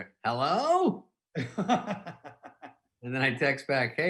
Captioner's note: laughing